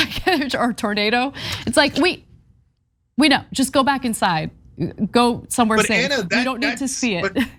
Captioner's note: laugh